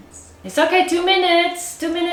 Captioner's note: Malaysian accent